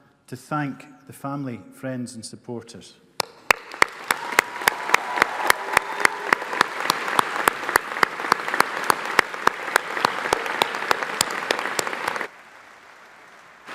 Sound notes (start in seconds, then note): 4.3 audience applauding